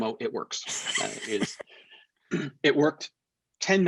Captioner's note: laughs